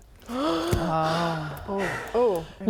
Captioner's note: gasp